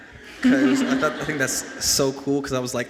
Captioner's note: and audience laughs